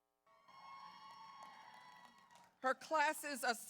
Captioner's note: audience cheers